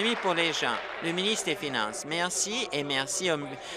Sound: applause

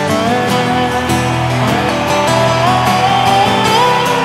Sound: melancholy guitar music; crowd cheers

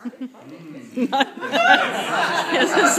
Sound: laughter

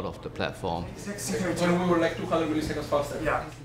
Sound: mumbling

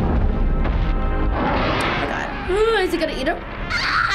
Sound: dragon roaring

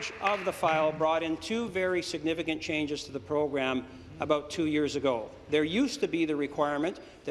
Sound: applause

